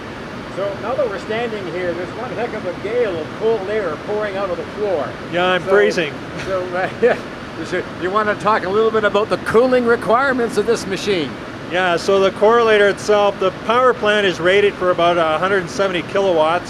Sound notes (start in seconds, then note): 6.3 both laugh